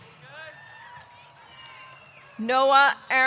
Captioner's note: audience cheering; audience clapping